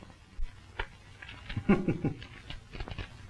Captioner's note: chuckles